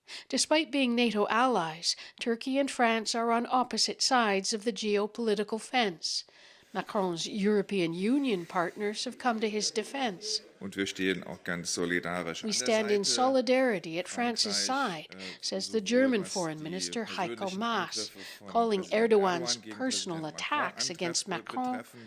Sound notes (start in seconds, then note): 12.3 speaking Foreign Language